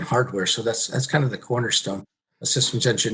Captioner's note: murmurs